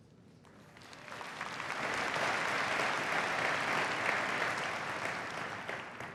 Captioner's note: applause